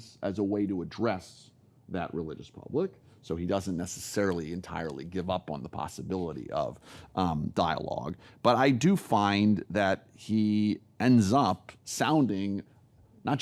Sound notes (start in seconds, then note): none